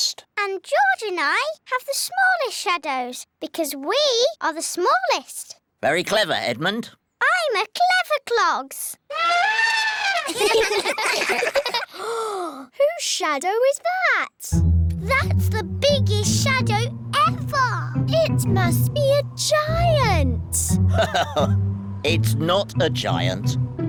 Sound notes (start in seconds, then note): 9.1 trumpets; 9.9 all giggle; 11.9 gasps; 20.6 laughs